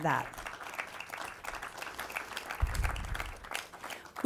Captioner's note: audience claps